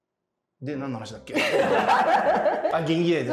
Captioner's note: laughing